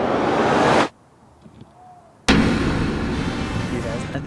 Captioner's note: hooting sound